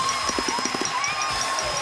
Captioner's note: applause